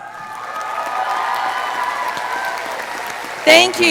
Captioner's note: audience applauding